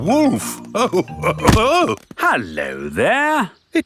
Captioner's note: chuckles